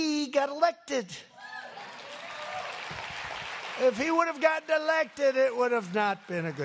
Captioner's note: applause